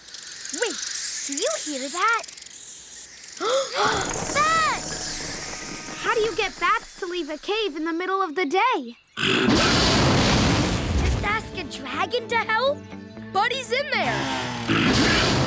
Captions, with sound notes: Wait. You hear that? [gasping] Bats! How do you get bats to leave a cave in the middle of the day? [roaring] Just ask a dragon to help? But he's in there!